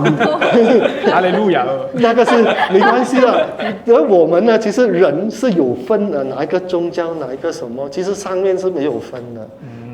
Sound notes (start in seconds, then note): 2.0 laughter